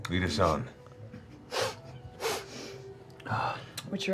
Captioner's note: sniffs